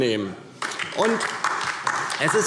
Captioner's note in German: Beifall DIE LINKE